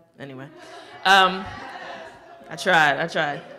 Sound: audience laughing

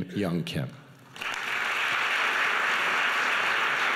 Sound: clapping

